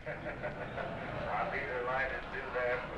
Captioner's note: laughter